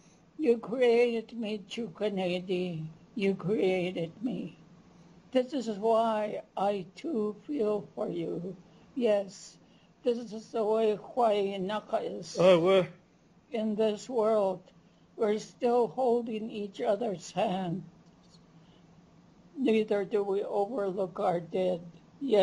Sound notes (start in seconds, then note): 2.1 non-english; 10.2 non-english speech